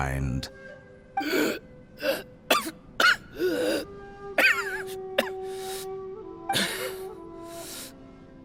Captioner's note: cough; gasping for air